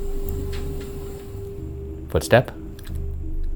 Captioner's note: mysterious footstep creaking